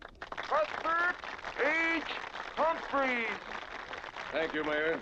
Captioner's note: crowd applauding